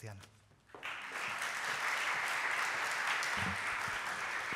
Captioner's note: applause